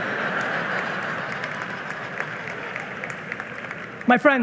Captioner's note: audience laughing and applauding